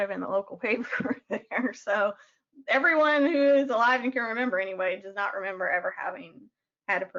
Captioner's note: chuckles